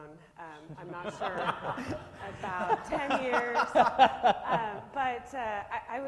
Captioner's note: laughs